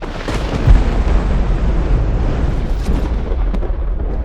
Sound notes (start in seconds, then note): 0.0 thunder